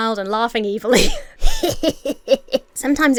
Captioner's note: Emma laughs; Emma imitates evil laughter